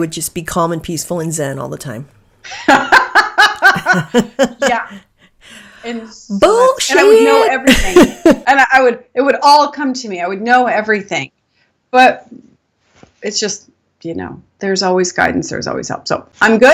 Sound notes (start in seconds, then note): 2.5 laughing